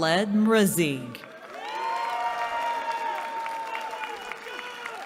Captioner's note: cheering